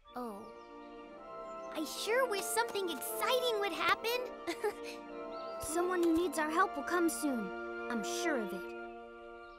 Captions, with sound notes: Oh. I sure wish something exciting would happen. [Hogi giggles] Someone who needs our help will come soon. I'm sure of it.